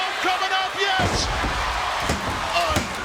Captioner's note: referee pounding fist; body thudding